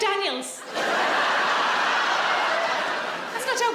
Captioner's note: audience laughs